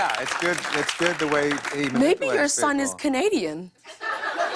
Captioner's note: laughter